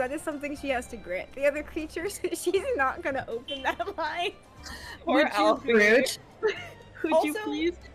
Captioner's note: laughs